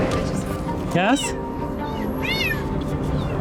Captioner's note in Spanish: Maullidos